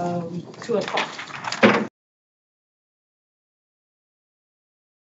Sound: gavel taps

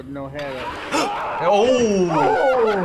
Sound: gasps; cameraman screams

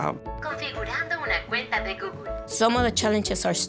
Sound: computer speaking in foreign language

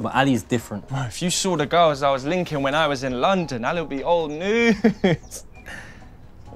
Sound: laughing

